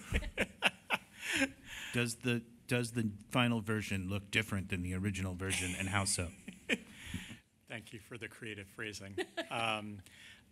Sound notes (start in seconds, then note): 5.5 laughter